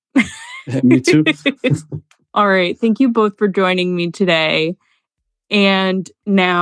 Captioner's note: both laugh